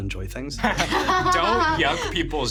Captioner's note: laughing